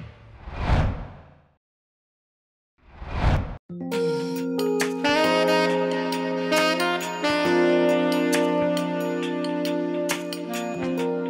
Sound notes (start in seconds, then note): 0.3 wind whooshes; 3.7 sensual music